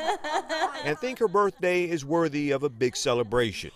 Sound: laughter

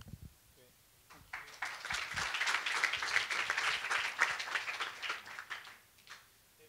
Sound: applause

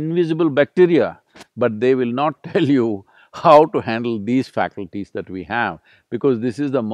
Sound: laughs

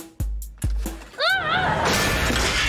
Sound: shouts

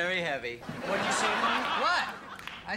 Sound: audience laughing

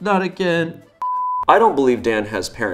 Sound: beep

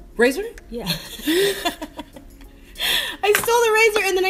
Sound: laughter

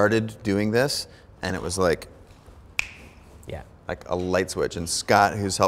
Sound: snapping

